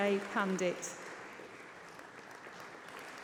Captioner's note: applause